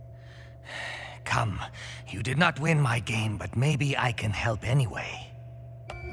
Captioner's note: sighs